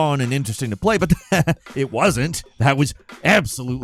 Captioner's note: laughs